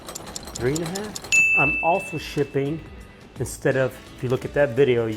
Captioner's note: ding sound